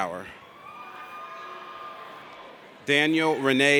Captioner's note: audience cheers